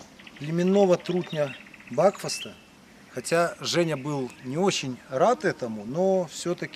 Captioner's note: bees